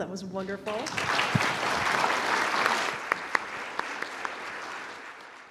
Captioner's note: audience applauding